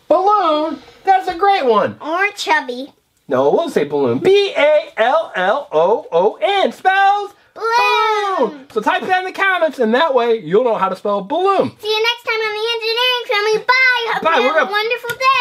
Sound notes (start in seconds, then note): 0.2 voiceover; 3.7 voiceover; 9.1 voiceover